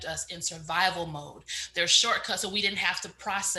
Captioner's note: none